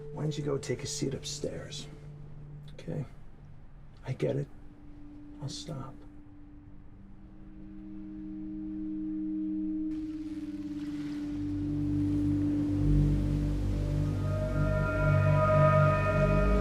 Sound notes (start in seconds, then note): 7.1 tense music; 10.3 seagulls mewing; 12.3 ominous music